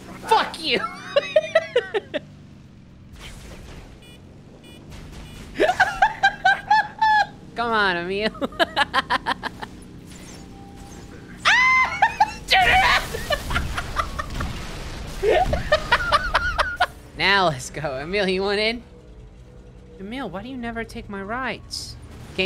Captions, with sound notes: Fuck you! [laughing] [reversing beeping noises] [laughing] Come on, Emile. [laughing] AHH! [scream of frustration] [laughing] NOW let’s go. Emile, you want in? Emile, why do you never take my rides?